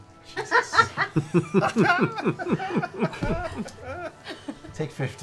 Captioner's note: laughter